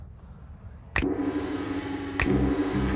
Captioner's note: gong; finger snaps